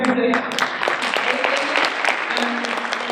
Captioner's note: audience applause; speaker drowned out by applause